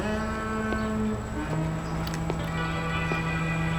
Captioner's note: feet stepping; dramatic music